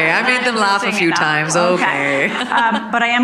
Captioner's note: audience laughing; chuckles